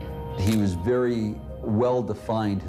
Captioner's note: camera shutter click